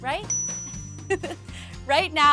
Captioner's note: bell rings; laughing